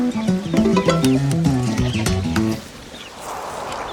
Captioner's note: notification